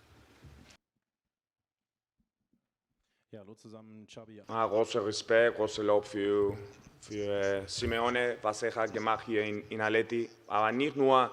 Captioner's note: German